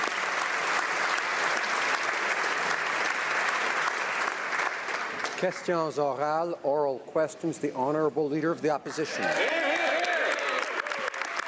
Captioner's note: applause